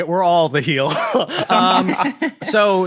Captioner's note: others laughing